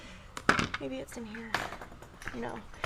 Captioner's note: cutter thuds